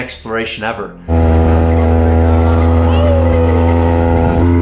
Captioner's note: go cart engine humming